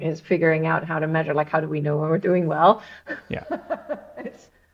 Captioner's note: laughs